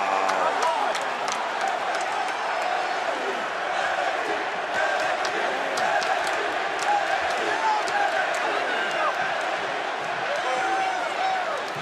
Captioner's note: crowd chants "nxt"